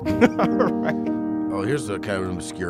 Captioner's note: laughing